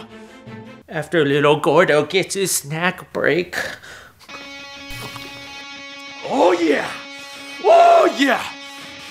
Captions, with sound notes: After little Gordo gets his snack break. (munching) Oh, yeah! OH YEAH!